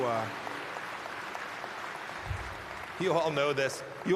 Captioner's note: applause